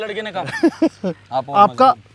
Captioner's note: Laughing